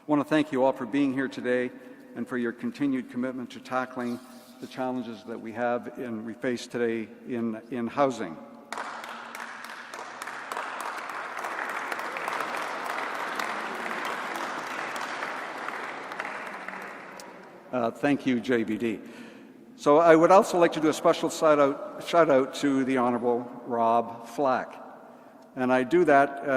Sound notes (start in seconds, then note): 12.4 applause